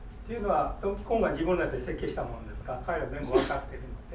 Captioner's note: speaking in foreign language; coughing